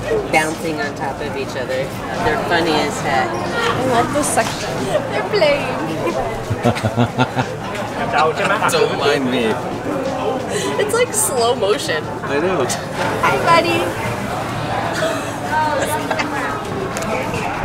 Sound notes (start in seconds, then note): 6.2 laughter; 14.9 laughter